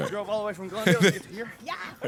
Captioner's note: laughs